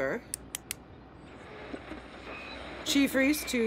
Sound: static

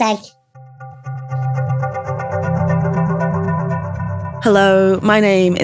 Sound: atmospheric sound effects

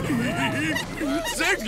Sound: laughing

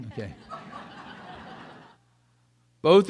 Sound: audience laughs

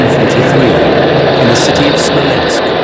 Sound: tank rumbling

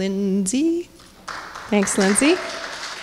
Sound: applause

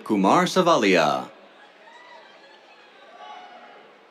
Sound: cheers

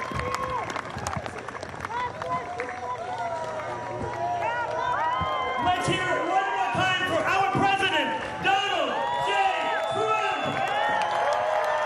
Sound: cheers and applause

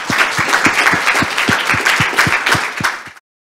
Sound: applause

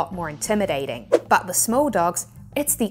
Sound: graphics whooshing

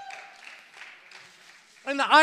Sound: congregation applauds

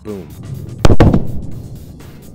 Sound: sonic boom

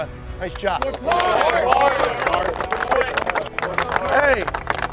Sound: team cheering

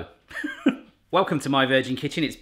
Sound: laughs

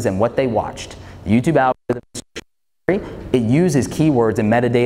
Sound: interuption in mic

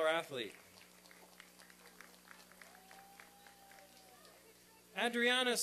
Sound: applause and cheering

